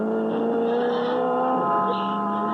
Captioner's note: horn blaring